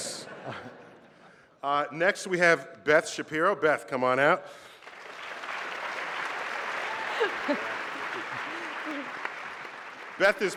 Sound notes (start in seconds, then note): 0.1 laughter; 4.7 applause